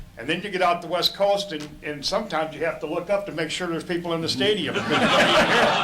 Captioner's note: laughter